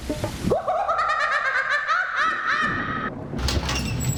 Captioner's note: manic clown laugh